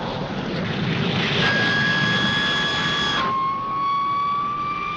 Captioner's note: engine whirring